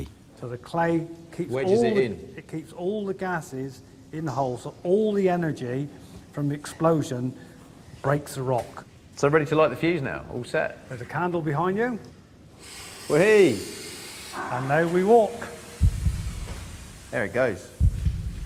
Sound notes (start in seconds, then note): 12.6 fuse sizzles